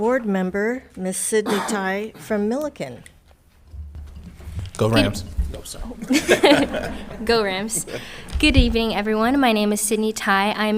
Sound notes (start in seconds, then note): 5.9 all laughing